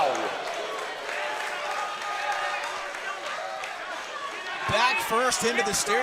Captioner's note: crowd cheering